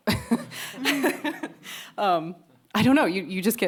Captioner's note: chuckles